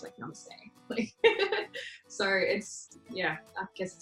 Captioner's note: laughs